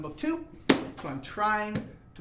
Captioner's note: books thudding